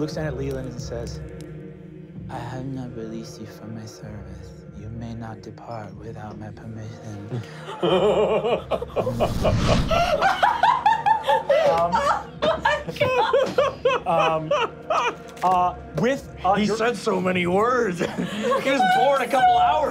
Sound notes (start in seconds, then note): 7.7 laughing; 9.0 wooshing; 10.6 laughing